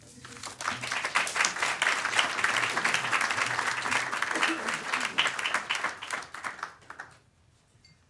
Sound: applause

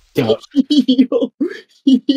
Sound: laughter

